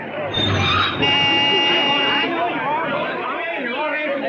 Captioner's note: horn honking